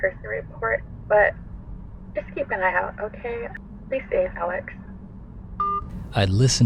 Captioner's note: voicemail ends